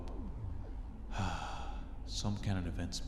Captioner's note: sigh